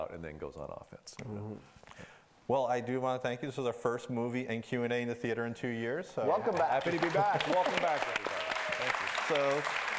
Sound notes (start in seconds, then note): 6.4 clapping and cheering